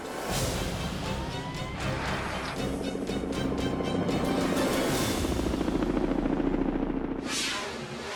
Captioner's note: sirens wailing and helicopter propellers humming; fast whooshing